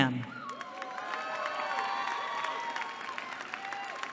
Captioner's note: cheering